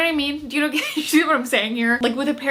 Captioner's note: laughing